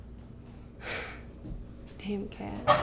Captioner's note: sighing